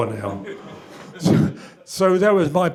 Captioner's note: chuckles